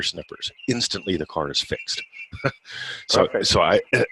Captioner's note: laughs